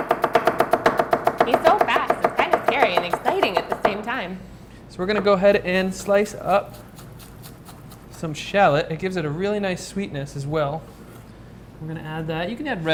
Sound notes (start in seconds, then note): 0.0 chopping noises